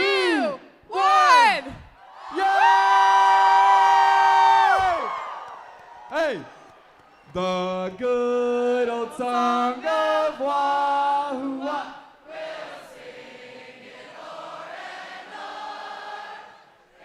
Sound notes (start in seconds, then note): 10.0 cheers; 12.3 singing